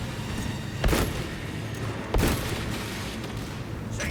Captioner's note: gunshots